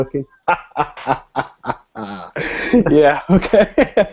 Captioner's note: laughs